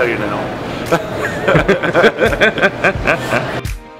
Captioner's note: laughing